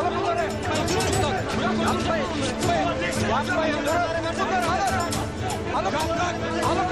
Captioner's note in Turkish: Bağırışlar